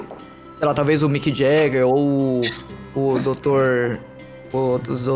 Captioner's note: laughs